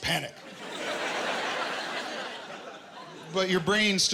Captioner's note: laughter